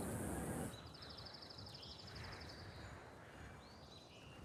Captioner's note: birds whistling